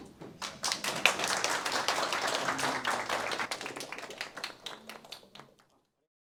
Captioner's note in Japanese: 一同、拍手